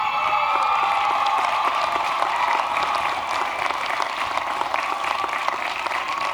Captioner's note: applause